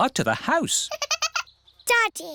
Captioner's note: giggling